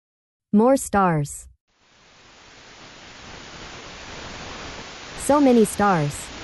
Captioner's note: quiet static